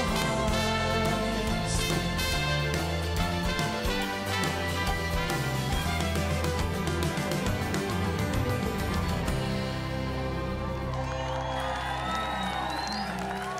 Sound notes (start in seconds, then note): 1.1 mellow rock music; 9.7 audience cheering